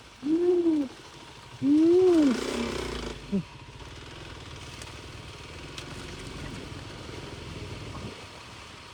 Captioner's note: motor rumbling